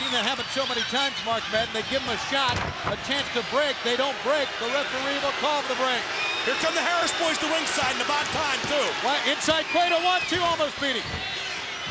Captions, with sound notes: I've seen that happen so many times, Mark Madden, they give him a shot, a chance to break. They don't break, the referee will cause the break. Here come the Harris boys (crowd booing) to ringside and about time too. Well, inside cradle, one, two, almost beat him.